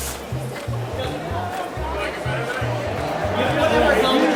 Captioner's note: vendors chatter